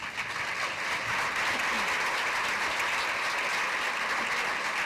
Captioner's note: applause